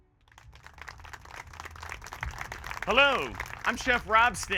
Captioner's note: applause